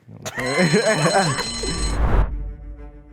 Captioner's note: men laugh; bell rings; dramatic music